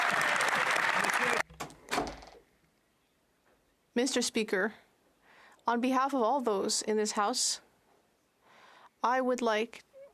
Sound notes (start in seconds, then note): 1.9 some Applause